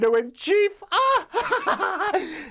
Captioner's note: laughter